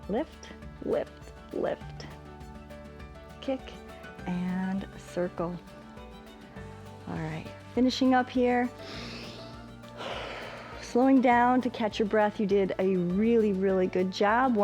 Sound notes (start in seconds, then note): 8.8 inhales and exhales